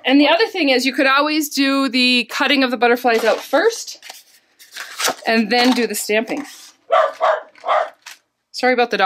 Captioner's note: dog barking